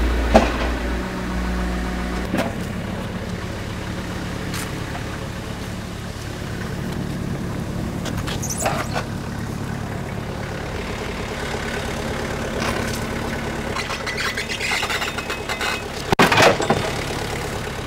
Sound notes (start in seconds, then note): 0.2 wood slab thuds; 8.0 wood slab squeaks; 15.9 wood slab thuds